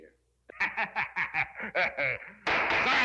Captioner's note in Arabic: يضحك القاضي